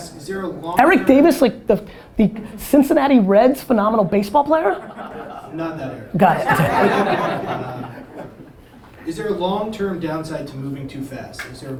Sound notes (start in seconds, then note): 6.2 audience laughter